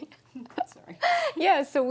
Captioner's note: laughing